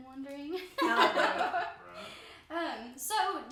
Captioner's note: chuckling